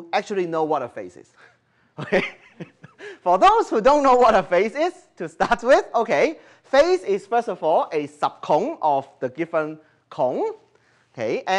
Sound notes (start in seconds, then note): 1.4 chuckle